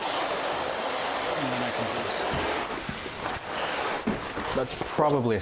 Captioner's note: tarp scraping loudly